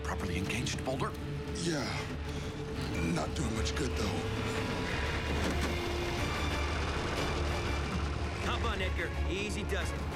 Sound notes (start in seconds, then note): 2.7 strained